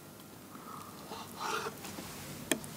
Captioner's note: cutting noise